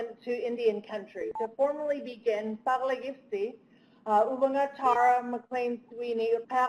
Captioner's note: speaking Native language